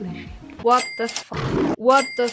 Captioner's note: lion roar